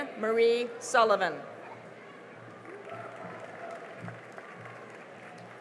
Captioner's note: cheering and applause